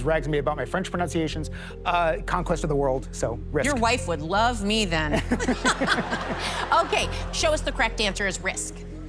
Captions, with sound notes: My wife always rags me about my French pronunciations. Conquest of the world, so, Risk. Your wife would love me then. [ Laughter ] Okay, show us the correct answer is Risk.